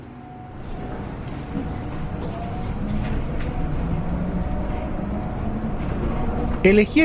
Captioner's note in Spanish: Sonido del bus eléctrico